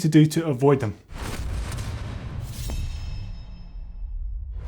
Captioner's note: metal crunching